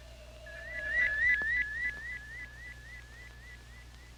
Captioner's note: satellite beeping